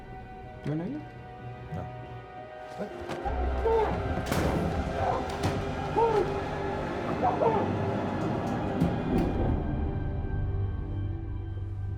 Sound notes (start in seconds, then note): 3.7 muffled yelling